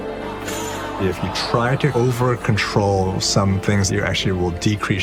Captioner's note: crowd groans